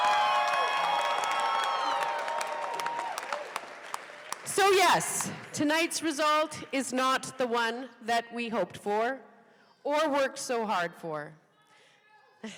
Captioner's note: laughter